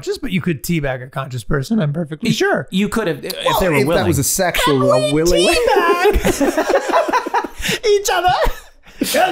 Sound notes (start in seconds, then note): 4.5 all laughing; 4.9 Charlie High Pitched